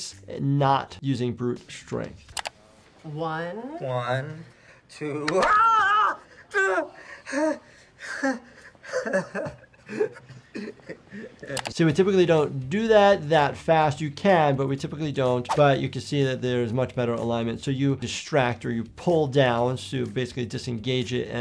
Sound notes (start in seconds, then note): 5.2 patient screams; 8.4 patient laughs